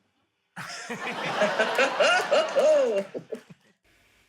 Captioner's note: laughter